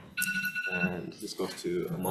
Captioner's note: timer sounding